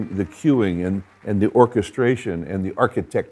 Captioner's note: audience applauds